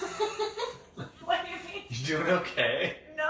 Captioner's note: laughing